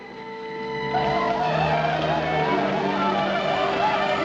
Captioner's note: war cries